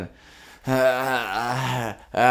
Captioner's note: laugh